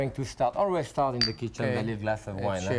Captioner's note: glasses clinking